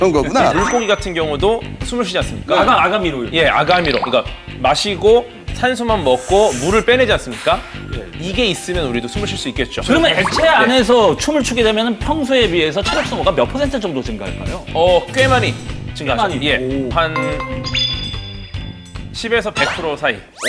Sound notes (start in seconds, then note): 6.1 exhales; 6.1 inhales